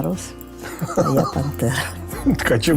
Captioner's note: laughter